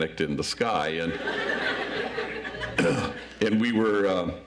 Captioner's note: audience laughs